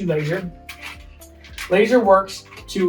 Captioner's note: laser scratching